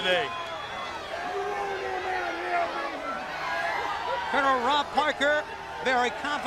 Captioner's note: crowd chatter